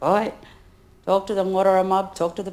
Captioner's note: speaks in foreign language